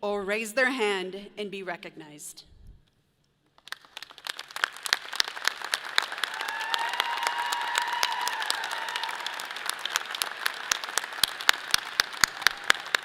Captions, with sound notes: or raise their hand and be recognized. (audience applauds) (people cheer)